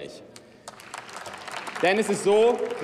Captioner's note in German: Beifall